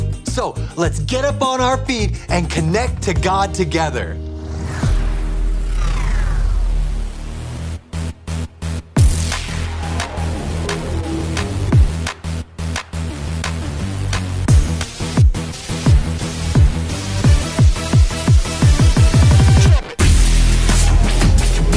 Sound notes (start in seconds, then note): 4.4 upbeat electronic music; 5.2 electricity whirring; 9.2 hands clapping